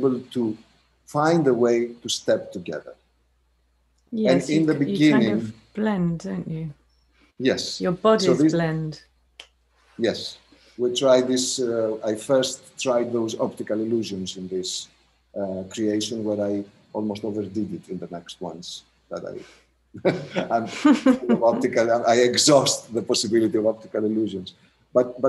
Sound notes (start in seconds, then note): 20.0 laughter